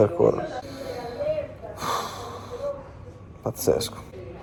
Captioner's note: sighs